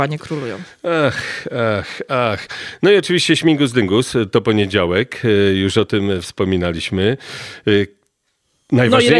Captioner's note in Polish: wzdycha